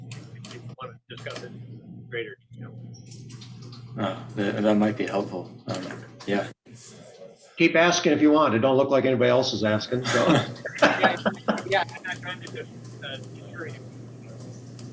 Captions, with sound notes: if you wanna discuss it in greater detail. - Oh, that might be helpful. Yeah. - Keep asking if you want. It don't look like anybody else is asking. (laughs)